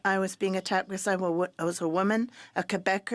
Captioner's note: speaking French